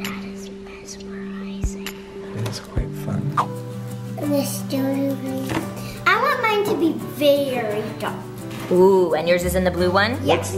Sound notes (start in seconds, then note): 0.3 whispers